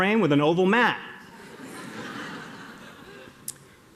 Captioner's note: laughter